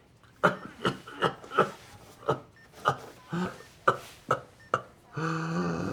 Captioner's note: Florio coughs and grunts; Florio inhales heavily